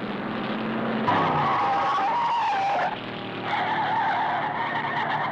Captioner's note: tires screeching